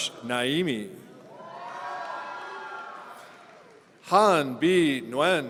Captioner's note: audience cheering